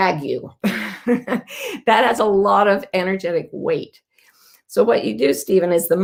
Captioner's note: laughing